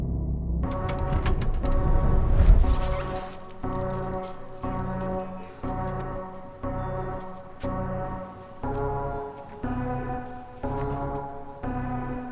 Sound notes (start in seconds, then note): 1.3 door squeaks open